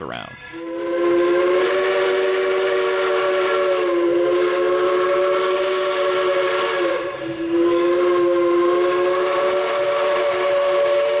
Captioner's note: whistle